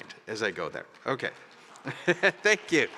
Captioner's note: applause